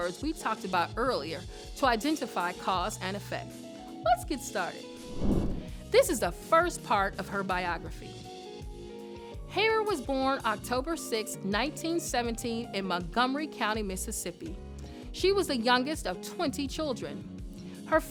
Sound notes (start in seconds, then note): 5.0 air whooshes